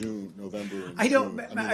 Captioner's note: off-mike